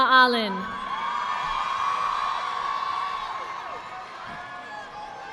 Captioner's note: audience applauding